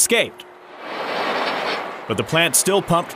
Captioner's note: rattling